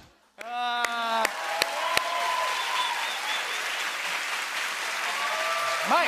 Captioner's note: cheers and applause